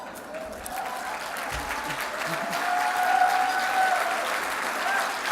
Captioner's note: applause